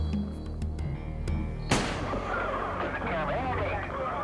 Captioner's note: rifle firing